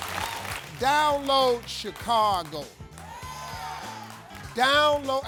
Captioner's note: audience cheers